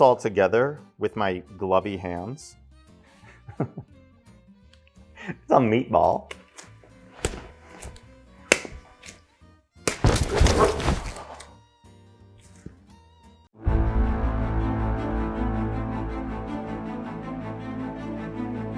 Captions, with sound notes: all together with my glovey hands. It's a meatball. (utensils clattering) (ominous orchestra music)